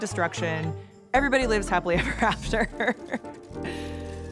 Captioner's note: laughs